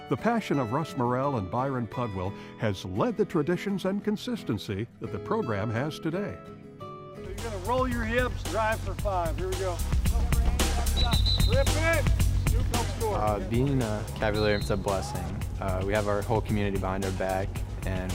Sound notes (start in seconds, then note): 10.8 whistle screeching; 11.6 speaking faintly